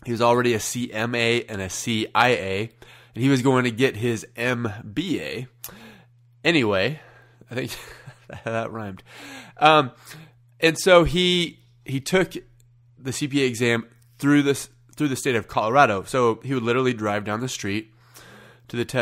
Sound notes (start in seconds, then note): 7.6 chuckles